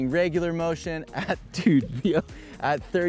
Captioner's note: laughing